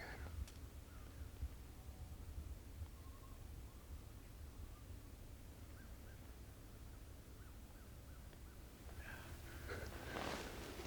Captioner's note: light wind blowing